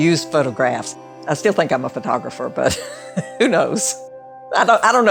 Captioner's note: laughs